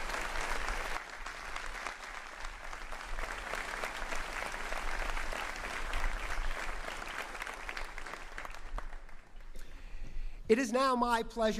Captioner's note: cheering and applause